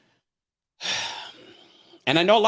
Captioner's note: sighs